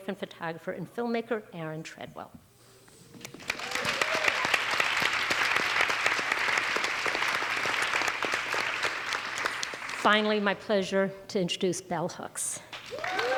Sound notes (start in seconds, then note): 3.1 audience applauds; 3.2 audience cheers